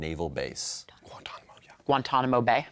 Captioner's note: whispering